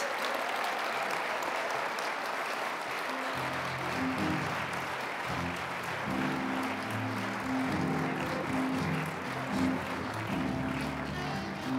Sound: applause; mellow jazzy music

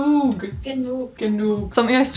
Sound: speaking in foreign language

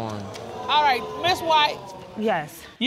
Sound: audience exclaiming

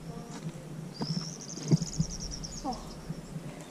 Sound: birds tweeting

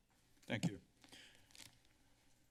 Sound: inhales

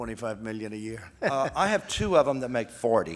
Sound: laughs

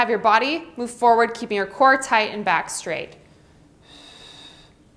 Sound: exhales

